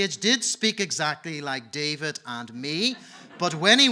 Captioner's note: audience laughing